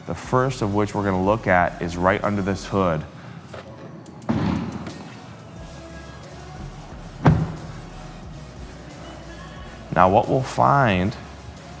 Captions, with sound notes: the first of which we're gonna look at is right under this hood. (hood pops open) (car door shuts) Now what we'll find